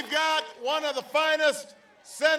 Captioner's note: applause